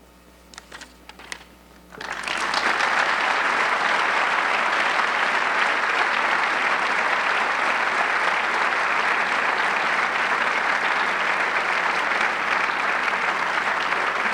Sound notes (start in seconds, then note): 2.8 audience clapping